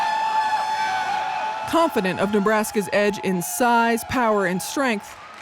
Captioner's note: crowd cheering